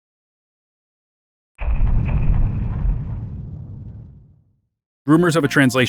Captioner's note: thumping